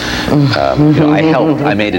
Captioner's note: laughs